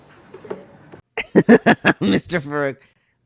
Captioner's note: laugh